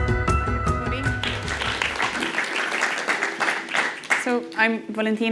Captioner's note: crowd clapping